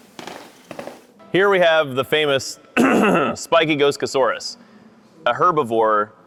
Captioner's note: clears throat